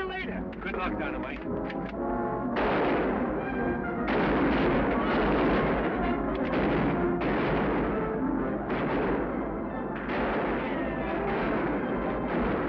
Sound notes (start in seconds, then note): 0.0 gun bangs; 2.4 exciting music; 2.5 guns bang